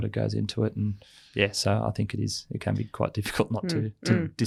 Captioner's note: laughs